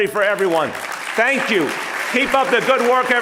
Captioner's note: audience applauding